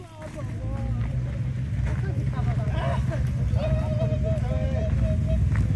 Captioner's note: people walking, background chatter